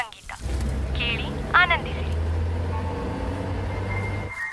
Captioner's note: Radio chattering